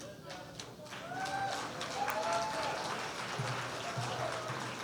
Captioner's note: applause